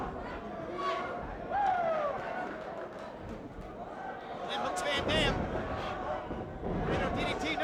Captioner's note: applause